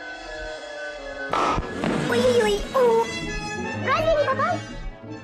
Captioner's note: bang